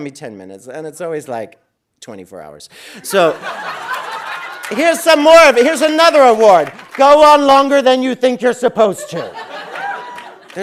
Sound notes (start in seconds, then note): 3.0 audience laughing